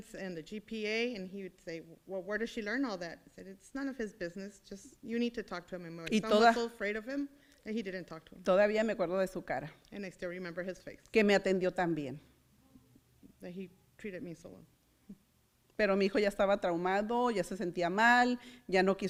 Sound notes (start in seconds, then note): 8.7 foreign language; 11.3 foreign language; 15.9 foreign language